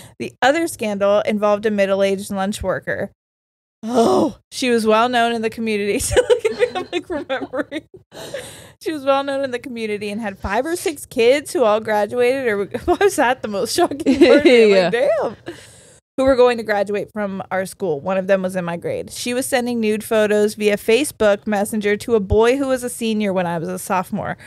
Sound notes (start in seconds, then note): 6.1 laughs